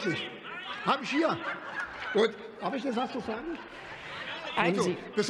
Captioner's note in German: Lachen bei der CDU/CSU und der SPD